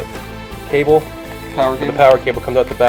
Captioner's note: voiceover